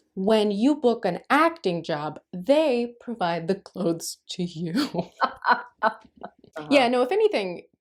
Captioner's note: laughter